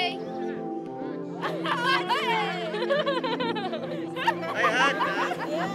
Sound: everyone laughs

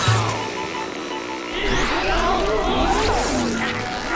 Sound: groaning

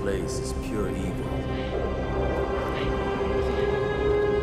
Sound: men whispering

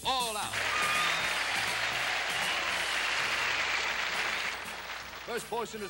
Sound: applause

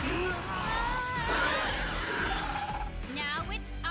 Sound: grunting; shrieking

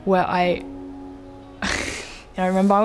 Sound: laughing

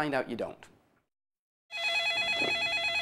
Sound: telephone ringing

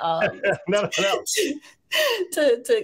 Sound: chuckles

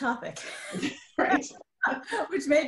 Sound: giggling

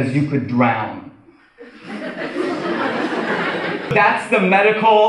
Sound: audience laughs

